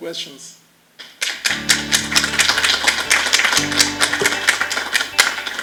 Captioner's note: applause